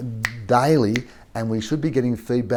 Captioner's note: clicks fingers